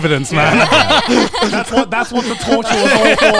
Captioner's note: everyone laughing